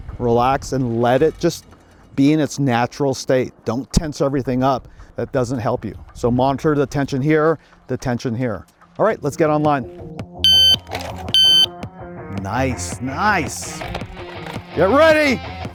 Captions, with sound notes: relax and let it just be in its natural state. Don't tense everything up. That doesn't help you. So monitor the tension here, the tension here. All right, let's get on line. (electronic beeping) Nice, nice. Get ready.